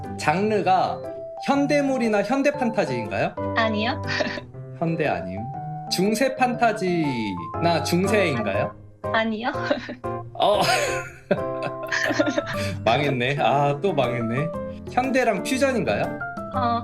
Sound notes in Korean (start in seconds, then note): 11.8 실성한 웃음